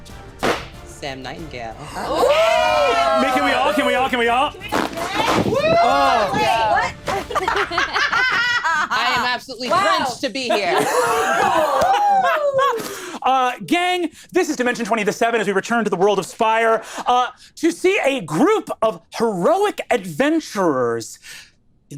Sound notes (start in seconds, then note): 2.0 cheering; 3.4 fans flipping; 7.0 laughing; 10.5 laughing